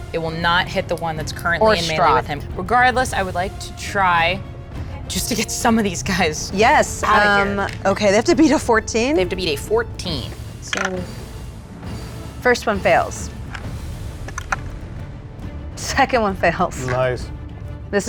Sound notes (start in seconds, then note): 10.9 dice rattles; 14.2 die rattles